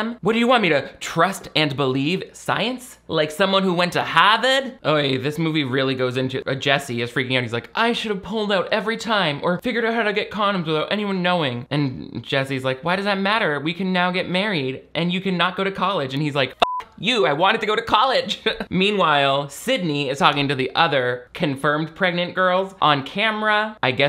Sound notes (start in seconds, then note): 16.6 beep